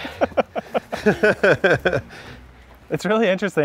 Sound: both laughing

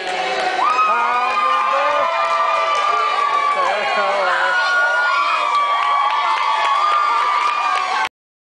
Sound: audience cheering

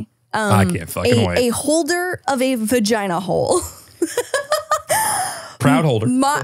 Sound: laughs

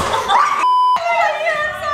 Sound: yelling

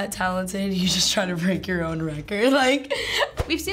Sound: chuckles

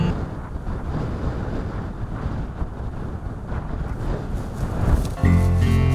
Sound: sound of the wind

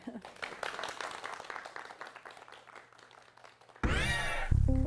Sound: applause

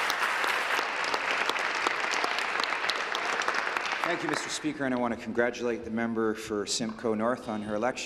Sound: applause

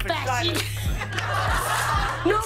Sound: laughter

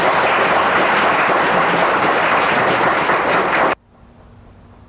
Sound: audience applauding

